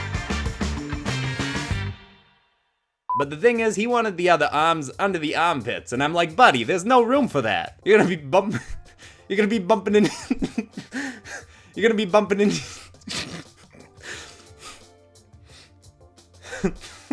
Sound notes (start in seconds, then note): 3.1 beep; 10.1 chuckles; 13.0 chuckling